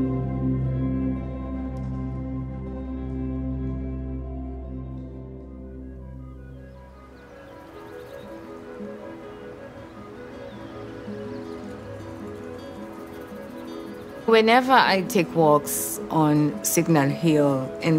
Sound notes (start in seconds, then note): 0.1 serene music continues; 6.4 bird tweeting; 7.1 gentle music